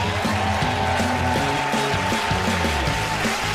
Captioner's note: cheers and applause